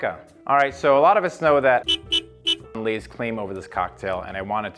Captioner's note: sfx: car horn sound